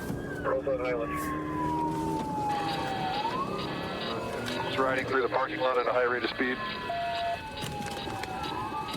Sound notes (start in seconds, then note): 6.8 sirens blaring